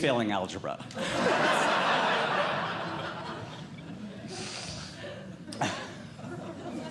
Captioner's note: audience Laughing